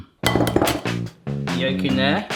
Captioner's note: jazz music; egg clanging